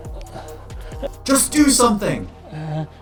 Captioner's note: alarm goes off